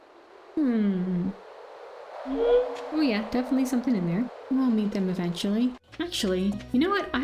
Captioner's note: shadow brute howl